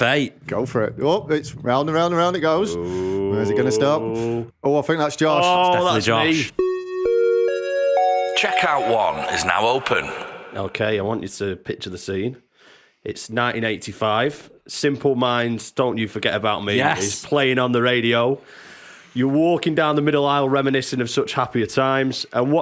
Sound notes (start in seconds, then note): 8.0 chime